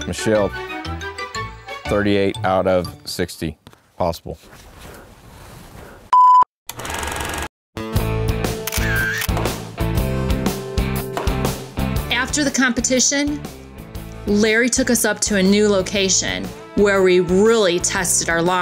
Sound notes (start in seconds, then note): 6.1 beep and reeling of film; 9.3 energetic music